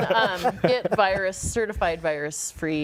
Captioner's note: laughter